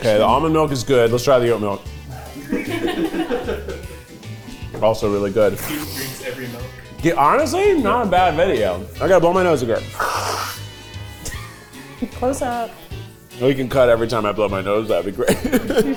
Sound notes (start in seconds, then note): 2.4 cast laughing